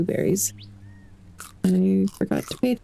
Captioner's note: crunching